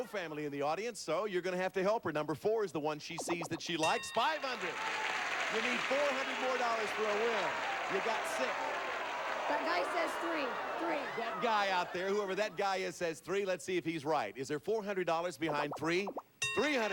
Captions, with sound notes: She has no family in the audience. So, you're gonna have to help her. Number 4 is the one she sees that she likes. $500. [audience applauding] You need $400 more for a win. You got $600. That guy says three. Three. That guy out there, whoever that guy is, says 3. Let's see if he's right. Is there $400 behind three?